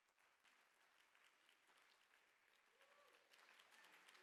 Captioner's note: applause